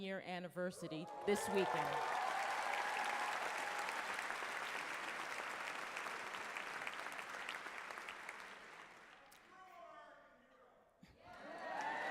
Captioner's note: applause